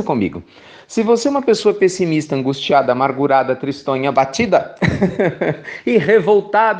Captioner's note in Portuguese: risos